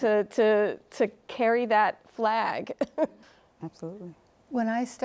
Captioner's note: chuckles